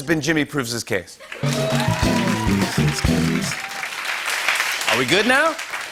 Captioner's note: cheers and applause